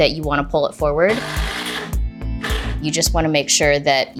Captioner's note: drill buzzing